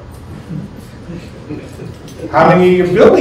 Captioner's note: laughter